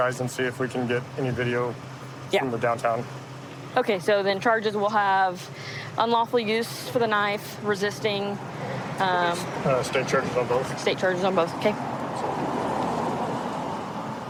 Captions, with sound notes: and see if we can get any video from the downtown. OK. So then charges will have unlawful use for the knife. Resisting. State charges on both. State charges on both. OK. [vehicles driving]